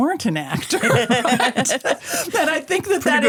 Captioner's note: everyone laughs